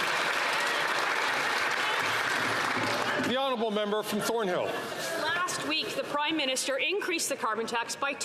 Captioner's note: some Applause